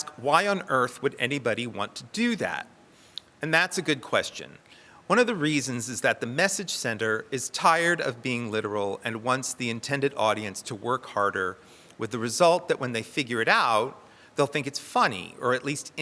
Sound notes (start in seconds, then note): none